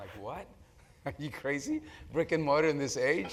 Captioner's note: laugh